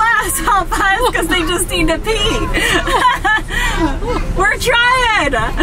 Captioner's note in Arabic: يضحك